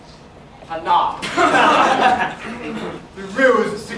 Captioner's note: laughter